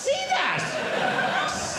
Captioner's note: audience laughing